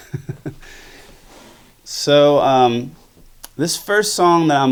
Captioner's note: laughs